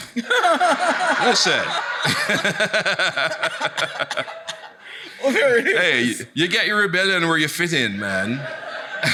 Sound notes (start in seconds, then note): 0.0 audience laughing; 0.0 laughs; 0.2 laughing; 8.4 chuckles